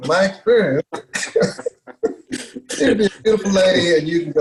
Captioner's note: laughs